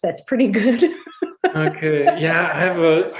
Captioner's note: laughs